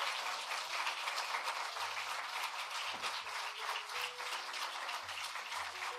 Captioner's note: cheering and applause